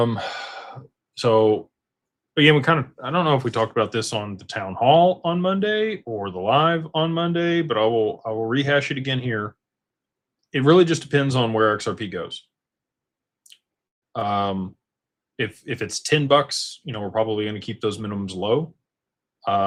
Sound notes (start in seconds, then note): 0.0 sighs and gasps